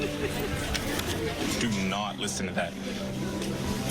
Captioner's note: muffled laughter